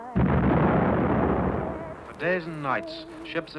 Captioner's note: bomb explodes